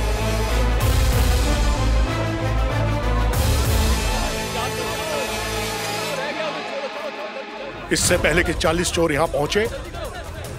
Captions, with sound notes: [dramatic music] [crowd murmering] Before those 40 thieves reach here